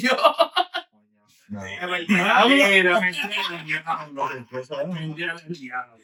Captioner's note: laughing; speaking In Foreign Language